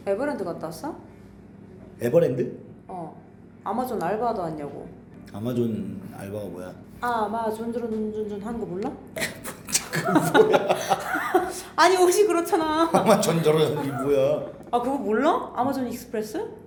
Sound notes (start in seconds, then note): 9.2 the customers are starting to giggle